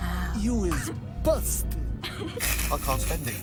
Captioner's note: snickering